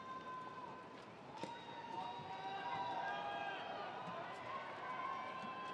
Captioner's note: attendees cheering